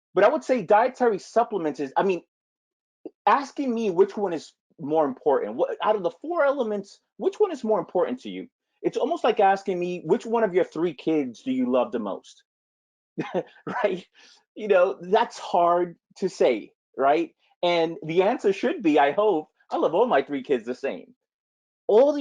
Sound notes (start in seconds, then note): 13.2 laughs